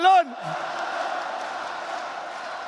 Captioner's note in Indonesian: Tepuk tangan